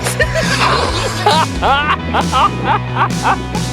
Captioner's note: laughing in estonian